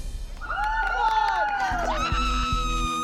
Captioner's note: cheering